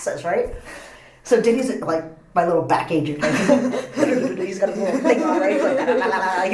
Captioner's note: laughs